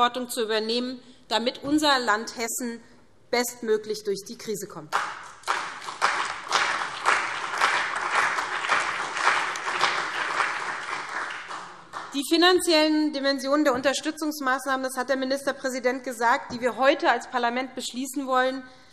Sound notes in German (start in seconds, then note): 4.9 Beifall SPD, CDU und BÜNDNIS 90/DIE GRÜNEN